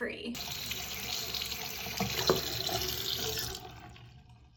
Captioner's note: water faucet running; faucet turns off